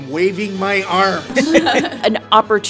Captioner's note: laughing